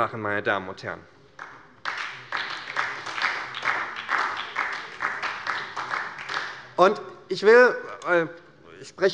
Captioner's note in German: Beifall bei Abgeordneten der SPD